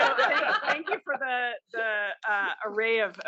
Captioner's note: laugh